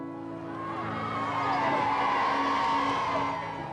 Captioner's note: crowd cheers